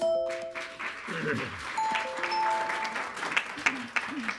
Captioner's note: audience clapping